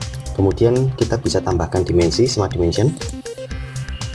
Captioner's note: click